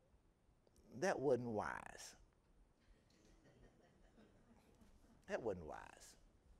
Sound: audience members chuckling

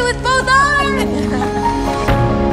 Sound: both laugh; bright, hopeful music

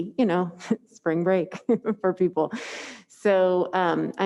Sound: laughs

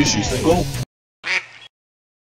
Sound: quack

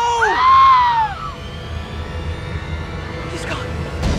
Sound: scream

